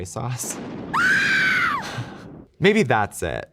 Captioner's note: scream sound effect